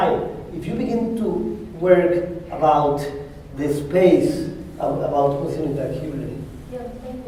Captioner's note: spanish